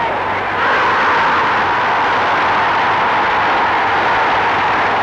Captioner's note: crowd roaring